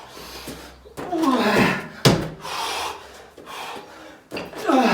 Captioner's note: grunts